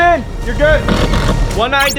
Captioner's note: power tool whirring